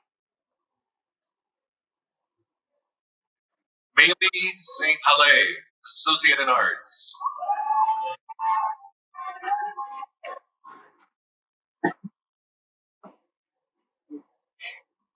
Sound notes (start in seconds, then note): 7.2 cheering